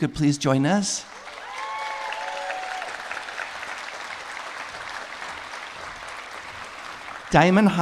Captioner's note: applause